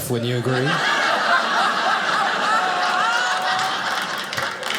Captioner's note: audience laughing